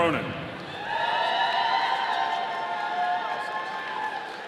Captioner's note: audience cheering